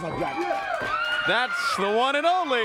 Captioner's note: crowd cheering